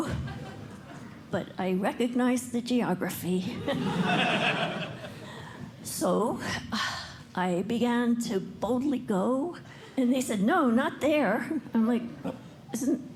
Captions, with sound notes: But I recognize the geography. [LAUGHTER] So I began to boldly go. And they said, "No, not there!" I'm like, "Isn't that